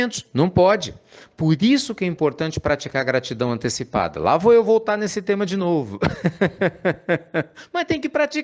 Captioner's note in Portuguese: Risos